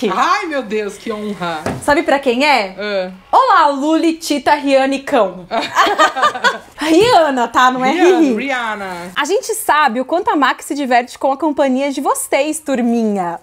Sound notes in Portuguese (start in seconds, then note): 5.5 risos